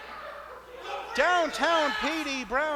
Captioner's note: continues yelling